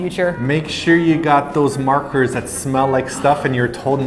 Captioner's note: gasp